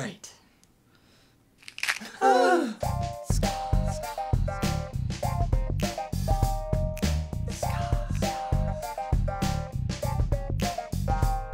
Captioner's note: crack of the bear's neck